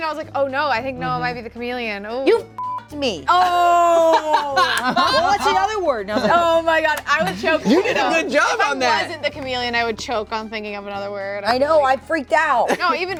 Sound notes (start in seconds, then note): 2.5 beep